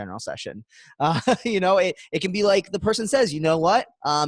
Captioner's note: laughs